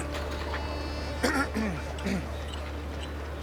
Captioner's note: clears throat